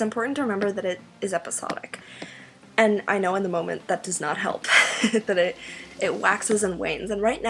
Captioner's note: laughs